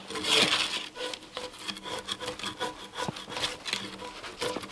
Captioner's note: drawknife scraping